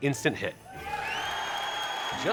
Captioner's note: crowd cheering